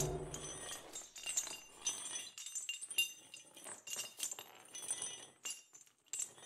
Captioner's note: sound of chains dragging on the floor